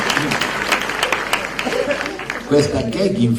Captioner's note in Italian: Applauso